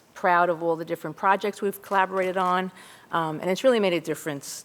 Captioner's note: none